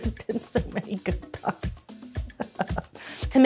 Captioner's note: laughs